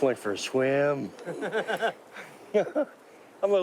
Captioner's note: laughing